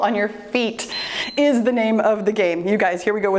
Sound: timer beeps

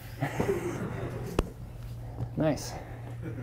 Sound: students laughing

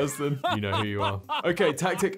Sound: chuckling

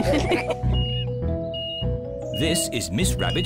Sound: all laugh; crane beeping

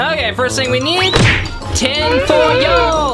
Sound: banging

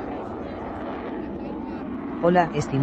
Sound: airplane sound

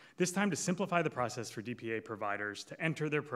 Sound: none

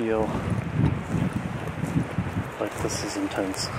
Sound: wind whooshing

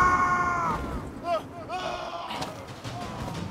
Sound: scream

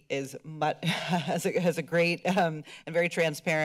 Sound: chuckles

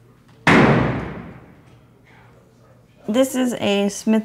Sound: gunshot

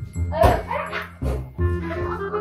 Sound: bumping sound

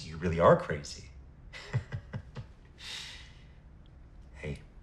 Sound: chuckles

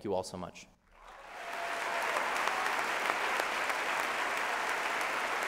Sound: applause

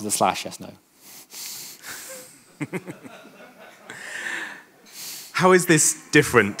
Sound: chuckling; audience laughing

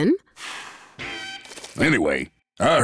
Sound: exhales

